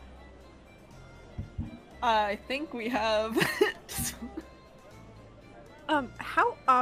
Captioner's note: laughs